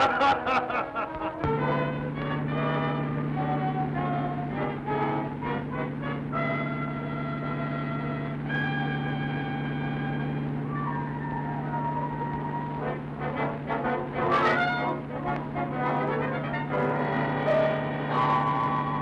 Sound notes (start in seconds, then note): 0.2 dramatic music; 2.8 engine rumbling